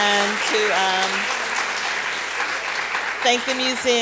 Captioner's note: applause